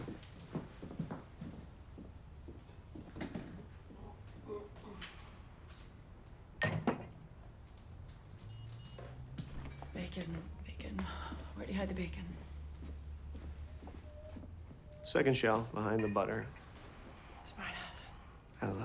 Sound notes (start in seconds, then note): 0.6 shoes clacking; 6.6 glass clinks